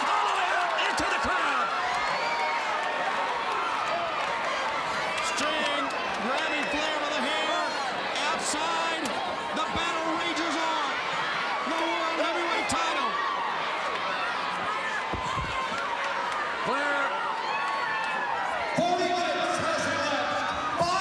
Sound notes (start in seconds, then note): 2.1 crowd cheering